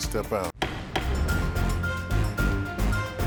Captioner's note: gavel thumps; upbeat dramatic music